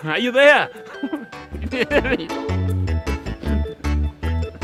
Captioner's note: laughing